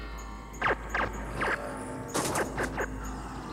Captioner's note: gun firing